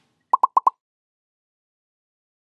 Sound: popping

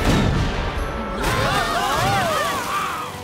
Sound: screaming

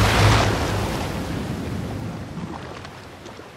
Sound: none

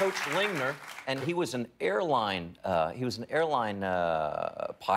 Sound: applause

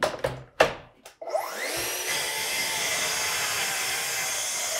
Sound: saw buzzing

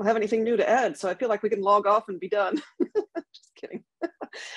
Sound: laughs

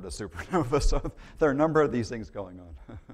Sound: laughter

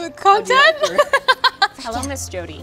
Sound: laughing

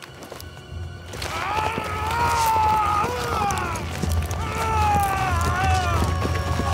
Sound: ropes creaking; Lao Ai wailing

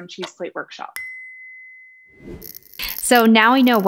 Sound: timer dinging

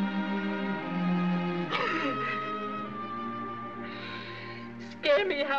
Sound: sobs

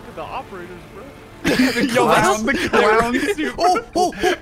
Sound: laughs

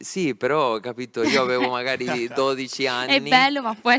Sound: laughing

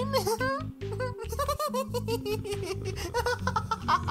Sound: Flowey is laughing

